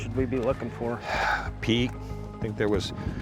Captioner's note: sighs